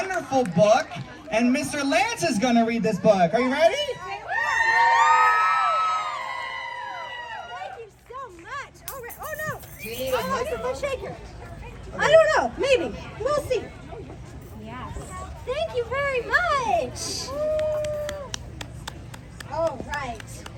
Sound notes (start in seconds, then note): 6.2 applause